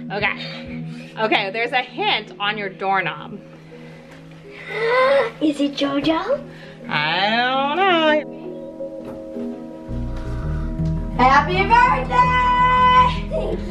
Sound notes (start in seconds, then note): 4.4 gasps; 8.5 gentle music